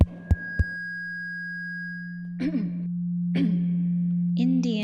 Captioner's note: tapping on microphone, feedback whining; woman clearing throat